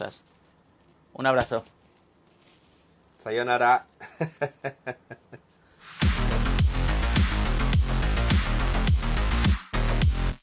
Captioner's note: laughs